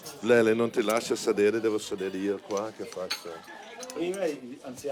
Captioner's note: speaking in Italian